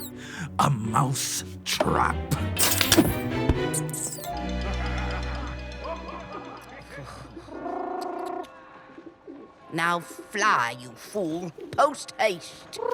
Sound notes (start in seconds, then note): 3.8 mouse squeals in surprise; 7.1 pigeon warbly coos; 12.7 pigeon coos